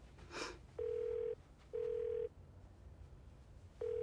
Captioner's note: line ringing